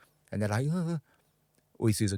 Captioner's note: gasping